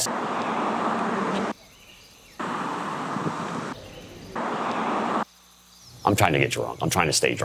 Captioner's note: traffic passing, insects, birds chirping